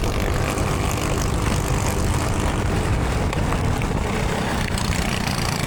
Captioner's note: engine revving